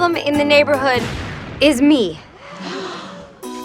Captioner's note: all gasps